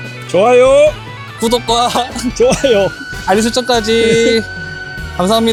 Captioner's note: laughs